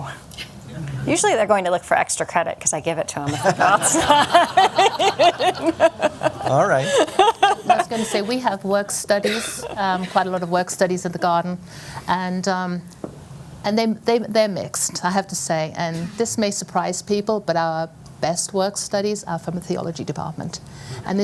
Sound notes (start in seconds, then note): 3.2 laughter